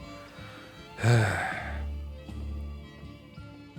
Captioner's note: sigh